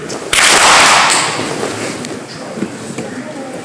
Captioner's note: clap